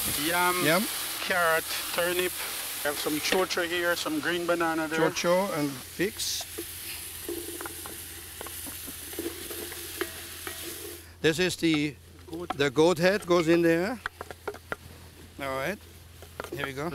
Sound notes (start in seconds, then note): 8.4 sizzling; 11.7 tapping